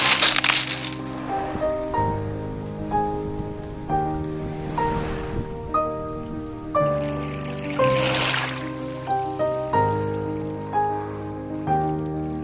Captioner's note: sound of soft sea waves